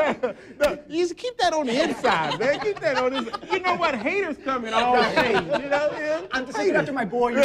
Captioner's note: laughs